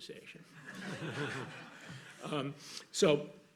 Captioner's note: laughter